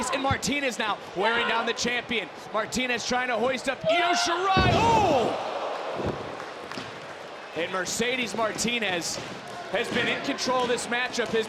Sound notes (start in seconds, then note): 4.1 crowd groans